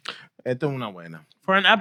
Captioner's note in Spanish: Hablando en idioma extranjero